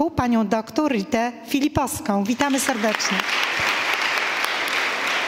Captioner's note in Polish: oklaski